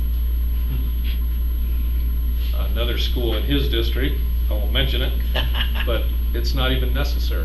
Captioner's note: laughter